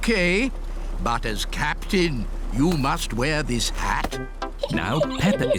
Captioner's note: giggles